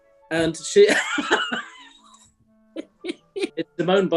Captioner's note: laughing